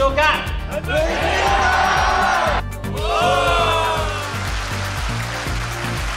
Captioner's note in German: Mann spricht in Fremdsprache; Voiceover; Menge jubelt